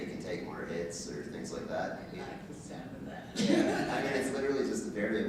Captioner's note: laughing